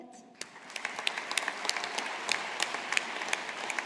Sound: audience applauding

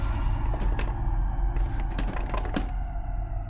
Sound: rattling

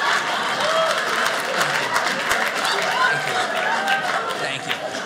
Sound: audience laughing; audience cheers

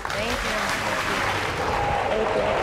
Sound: audience applauds

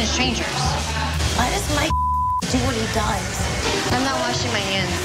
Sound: beep

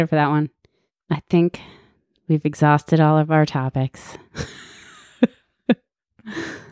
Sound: laughs

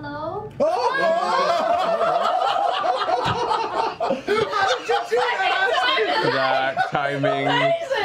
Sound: laughter

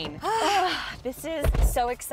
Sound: girls sighing

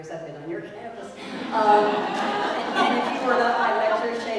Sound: laugh

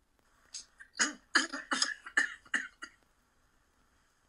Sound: Doc coughing

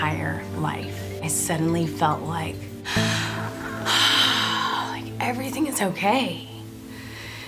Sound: sigh of relief

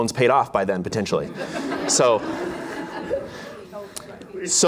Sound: laughter

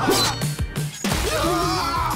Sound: screaming

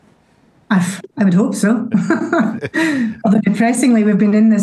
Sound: laughs

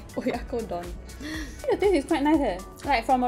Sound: gasps

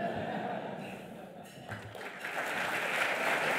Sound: audience laughter; audience clapping

